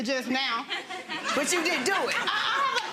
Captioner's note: audience laughing